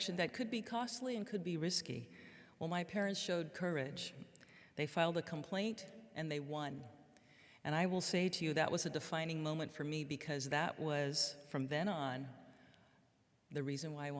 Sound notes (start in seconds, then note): none